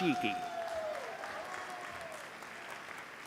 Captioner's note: applause